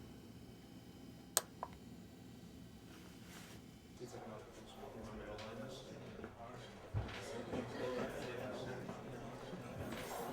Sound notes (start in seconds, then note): 4.0 bar chatter